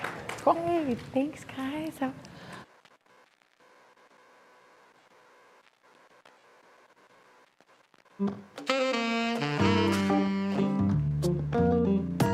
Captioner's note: applause